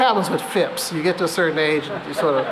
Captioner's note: laughter